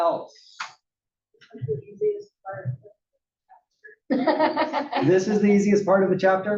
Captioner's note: laugh